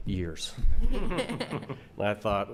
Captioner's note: laughing